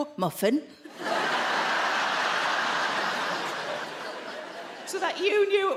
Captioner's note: audience laughing